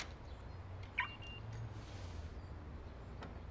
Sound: car alarm chirps

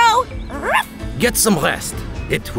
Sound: bark

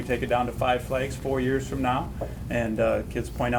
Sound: none

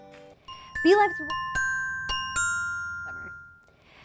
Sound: bells chiming

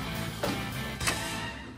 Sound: click

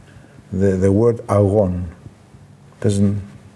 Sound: speaks in foreign language

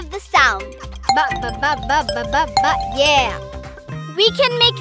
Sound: humming, glasses chiming

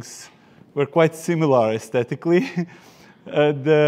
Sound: chuckles

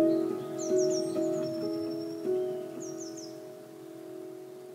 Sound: gentle music; birds chirping; gentle music

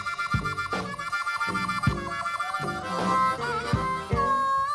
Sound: audience cheers

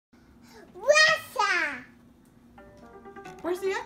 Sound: kid yelling

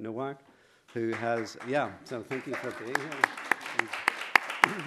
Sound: applause

